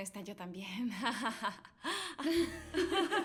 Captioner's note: laughs